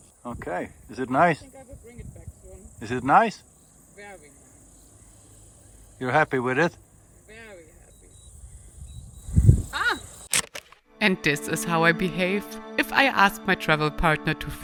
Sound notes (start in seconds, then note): 10.2 camera clicks